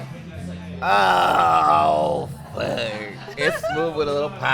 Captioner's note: chuckles